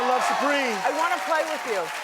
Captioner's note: cheering